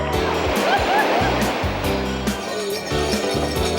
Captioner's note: people cheer